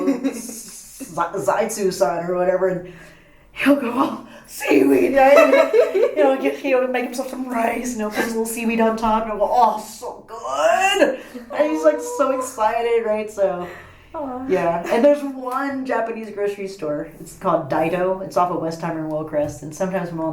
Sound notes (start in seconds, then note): 0.0 laughs; 6.2 laughs